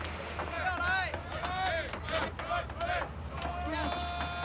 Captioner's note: shouting